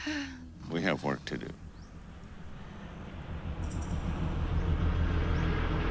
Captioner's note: airplane whirring